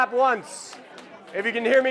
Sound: clapping

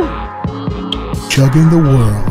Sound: kiss

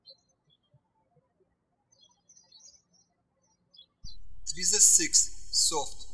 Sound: birds chirping

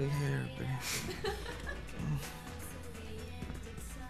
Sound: laughs

